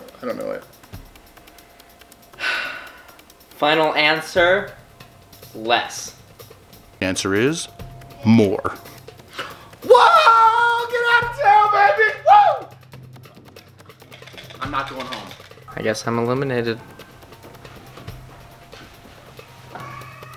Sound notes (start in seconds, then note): 2.2 sighs; 9.3 gasp